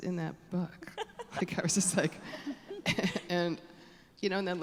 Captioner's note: audience laughing